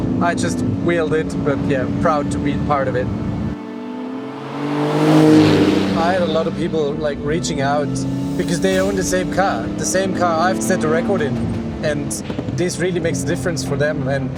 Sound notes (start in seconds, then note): 4.4 engine revs